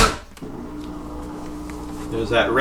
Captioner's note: humming sound